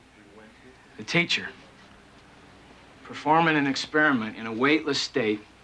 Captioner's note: none